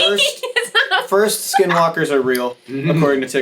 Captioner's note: laughing